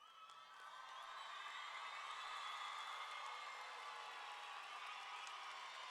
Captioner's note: audience cheering; audience clapping